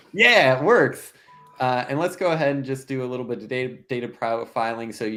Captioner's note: none